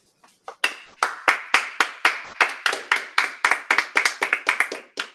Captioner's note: appluse